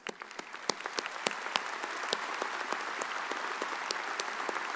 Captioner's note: audience applauds